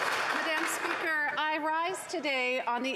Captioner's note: some Applause